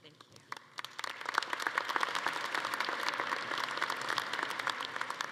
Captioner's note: attendees applauding